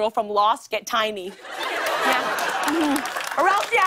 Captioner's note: laughter